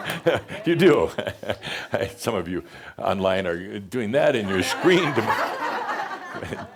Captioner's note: chuckles